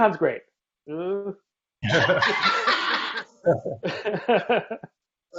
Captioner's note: laughing